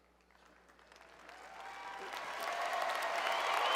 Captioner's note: cheers and Applause